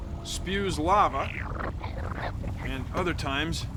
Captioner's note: squishing